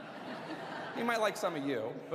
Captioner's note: laughter